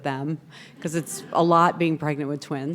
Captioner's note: people laughing